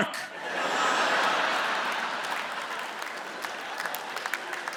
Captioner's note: audience laughs